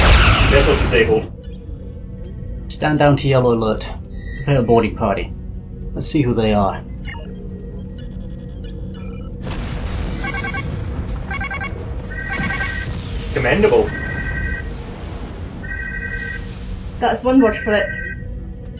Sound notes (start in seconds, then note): 9.4 alarm; 9.4 explosion